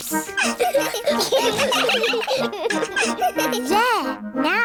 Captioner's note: all giggling